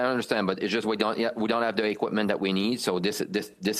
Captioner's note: speaking French